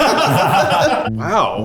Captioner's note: everyone laughs